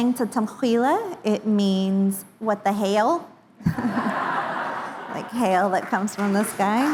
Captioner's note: indigenous Language